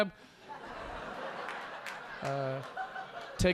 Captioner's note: audience laughing